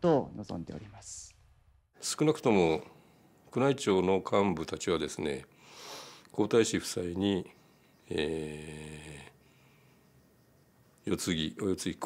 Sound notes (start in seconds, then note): 2.6 speaking in foreign language